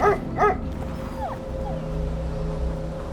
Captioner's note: dog barking; dog whimpering